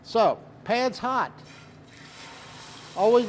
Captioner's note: chicken sizzles